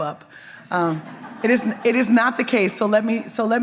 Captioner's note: audience members chuckle